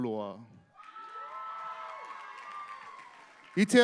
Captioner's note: applause